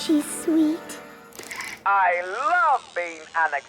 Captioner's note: whirring